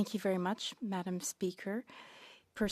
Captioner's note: speaking French